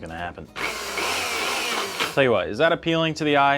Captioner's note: Nutribullet churning